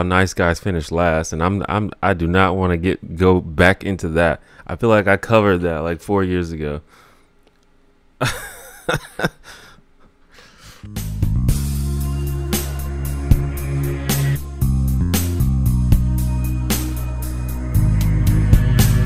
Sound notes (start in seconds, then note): 8.2 laughs